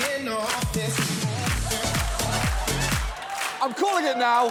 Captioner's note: audience cheering, applauding